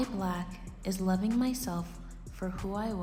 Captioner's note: none